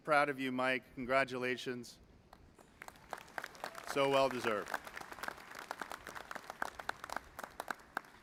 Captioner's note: applause